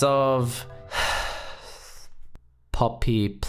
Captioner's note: sigh